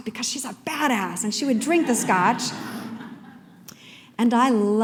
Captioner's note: laughter